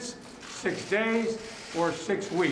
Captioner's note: cameras snapping